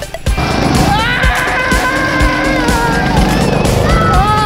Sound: motors roaring

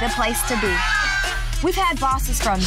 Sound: shouting

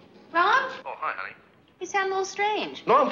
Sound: on phone

